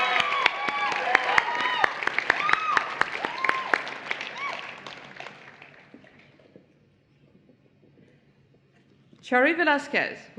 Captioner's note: cheering and Applause